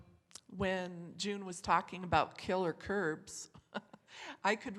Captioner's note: chuckles